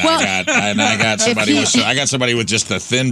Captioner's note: laughing